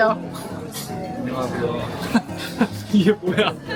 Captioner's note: laughter